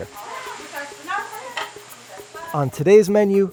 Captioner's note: people in kitchen chatting